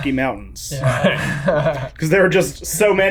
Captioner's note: everyone laughing